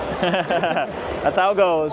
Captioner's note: laughing